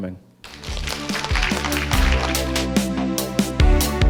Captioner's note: applause; closing music